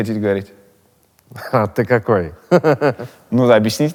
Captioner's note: laughs